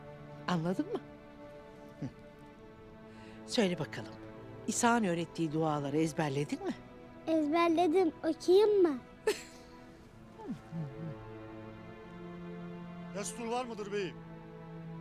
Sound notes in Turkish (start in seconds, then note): 9.2 Gülme sesi